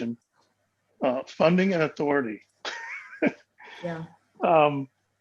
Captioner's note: laughs